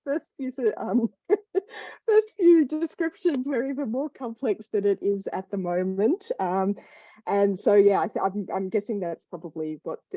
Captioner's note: laughs